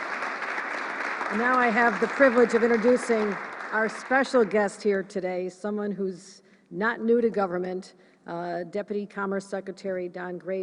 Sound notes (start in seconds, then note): 5.3 applause